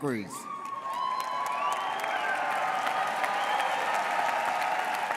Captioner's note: audience cheers